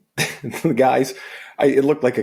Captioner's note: chuckles